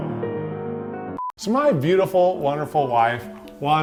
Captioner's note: beep